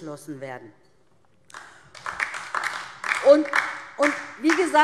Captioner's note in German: Beifall DIE LINKE